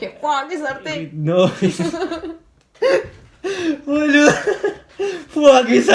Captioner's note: both laughing